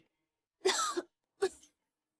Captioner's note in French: Tousse, tousse, tousse